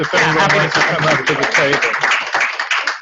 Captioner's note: clapping from audience